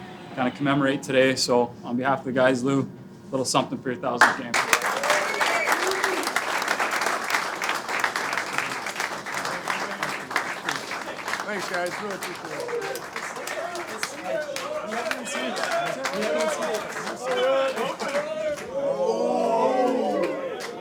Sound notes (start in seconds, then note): 4.9 clapping; 12.6 clapping